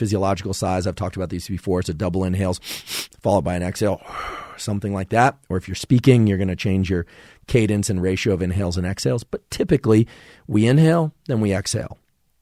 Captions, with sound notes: physiological size I've talked about these before, so double inhales [inhales twice] followed by an exhale [exhales], something like that. Or if you're speaking, you're going to change your cadence and ratio of inhales and exhales, but typically we inhale, then we exhale.